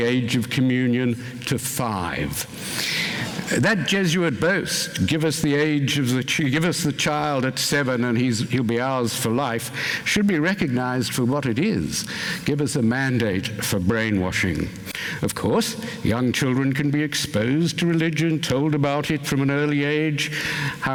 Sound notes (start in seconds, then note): 2.7 gasping